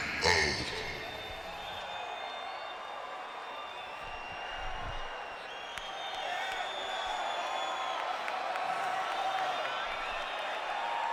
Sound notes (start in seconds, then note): 1.6 audience cheering